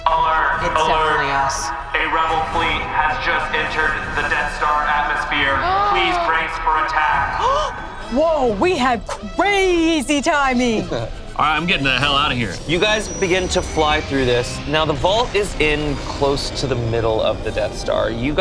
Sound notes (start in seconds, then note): 5.7 gasps